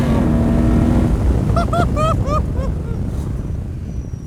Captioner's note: laughs